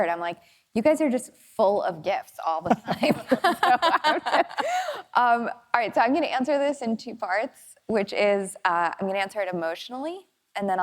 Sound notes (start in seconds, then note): 2.7 people laughing